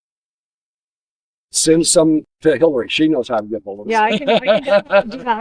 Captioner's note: laughs